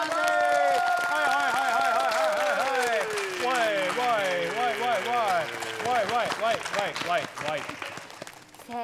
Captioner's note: clapping